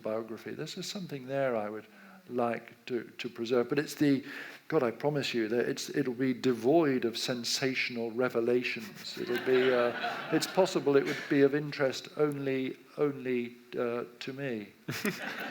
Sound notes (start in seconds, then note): 9.2 audience laughs; 13.6 audience laughs